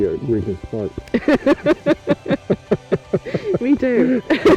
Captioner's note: laughing